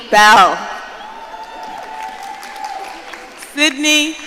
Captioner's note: audience cheering